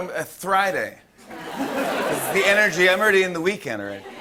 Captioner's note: laughter